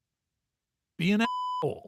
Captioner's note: beep